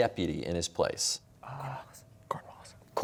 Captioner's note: whispering